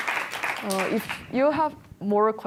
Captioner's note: applause